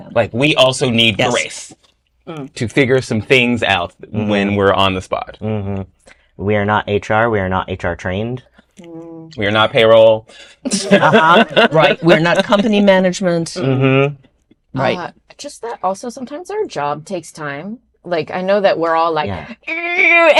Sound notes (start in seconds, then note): 10.6 laughter